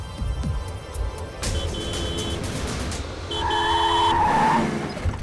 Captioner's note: tractor horn beeping